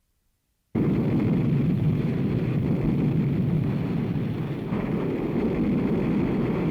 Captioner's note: plane engine roars